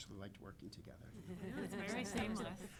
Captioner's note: laughing